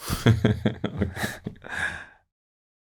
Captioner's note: laughs